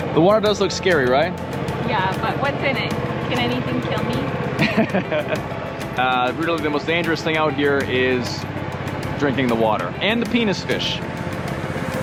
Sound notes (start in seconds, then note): 4.6 laughs